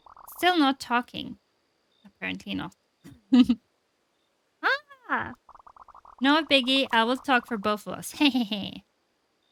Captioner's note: laughs